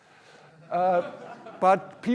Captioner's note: laughter